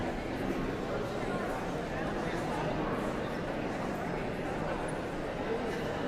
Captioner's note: audience chattering continues